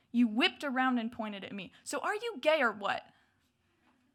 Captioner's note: none